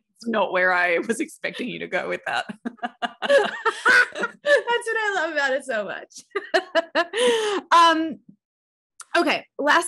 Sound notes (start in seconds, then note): 2.3 both laughing; 6.3 laughs